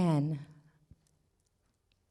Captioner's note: none